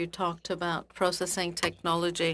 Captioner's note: speaking in French